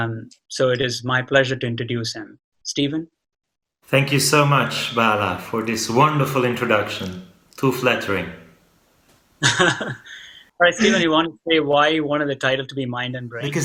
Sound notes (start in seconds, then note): 10.8 laughs